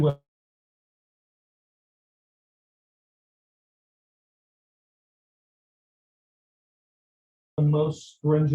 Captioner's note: audio drop